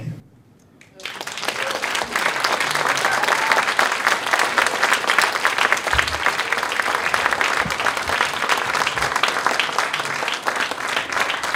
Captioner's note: applause